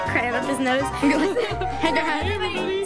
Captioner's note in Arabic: يضحك